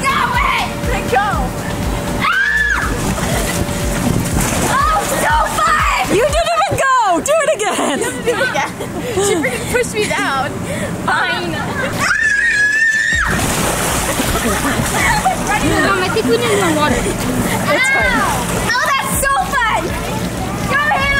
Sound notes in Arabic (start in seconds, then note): 2.2 تصرخ; 12.0 تصرخ